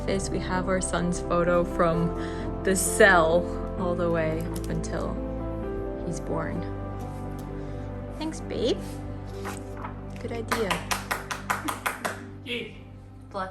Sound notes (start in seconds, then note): 10.4 applause